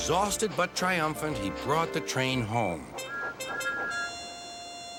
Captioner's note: both whistle